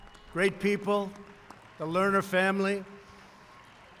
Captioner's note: applause